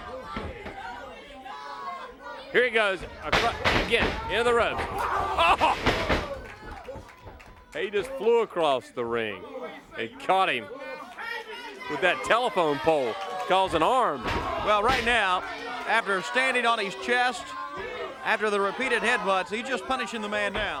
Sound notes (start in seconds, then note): 2.5 crowd chatter; 11.0 crowd chatter